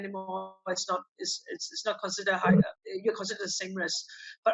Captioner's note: foreign language